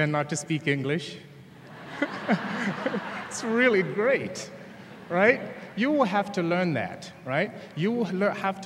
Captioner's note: laughter